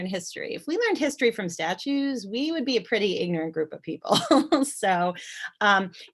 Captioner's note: chuckle